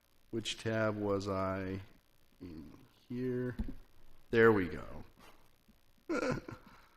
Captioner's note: laugh